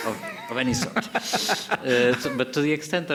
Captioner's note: laughing